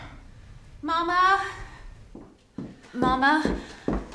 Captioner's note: sighs; footsteps